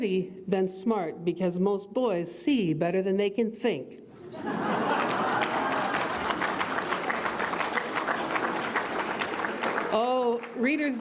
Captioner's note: audience laughs